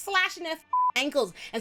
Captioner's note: beep